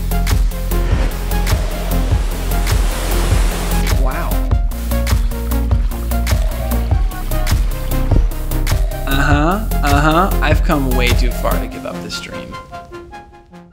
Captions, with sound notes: (ocean waves) Wow. (mellow electronic music) Uh-huh, uh-huh. I've come way too far to give up this dream.